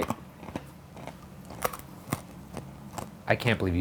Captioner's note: cat food cruches loudly